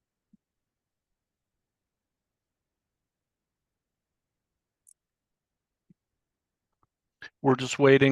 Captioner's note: silence